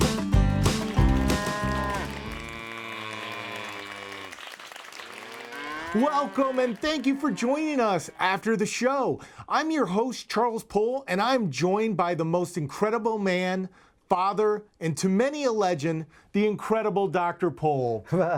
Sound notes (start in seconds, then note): 1.1 cows mooing; 3.7 applauding; 5.0 mooing dies out